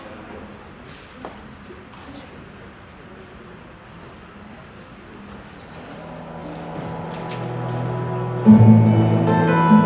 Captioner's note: chatter